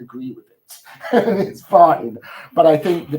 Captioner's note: chuckles